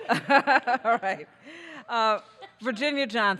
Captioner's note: laughing